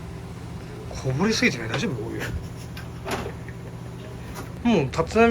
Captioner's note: laughs